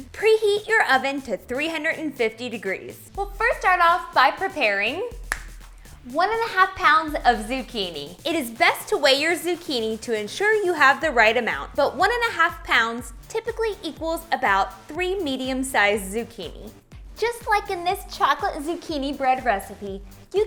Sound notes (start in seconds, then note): 5.2 snapping